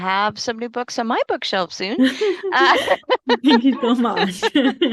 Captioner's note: laughter